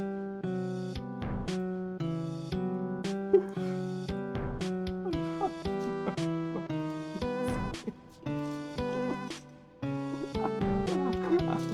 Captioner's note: crying